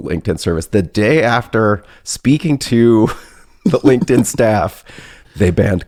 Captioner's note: laughs